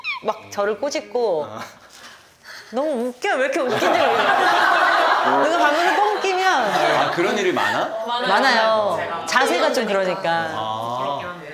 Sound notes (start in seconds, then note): 3.7 giggle